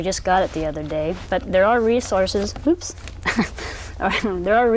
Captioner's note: laughs